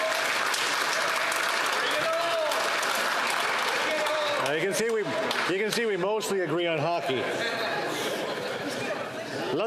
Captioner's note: applause